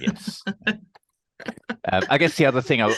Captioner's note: laughing